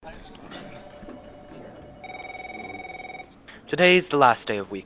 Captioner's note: office Noises